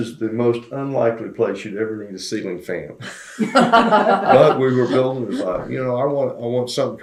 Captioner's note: laughter